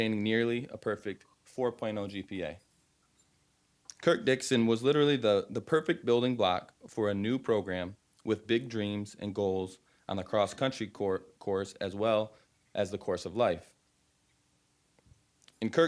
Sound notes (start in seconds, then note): none